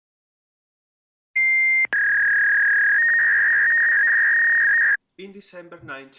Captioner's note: dial up tone